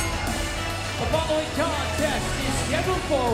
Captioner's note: bell ringing